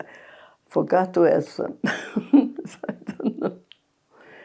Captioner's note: laughing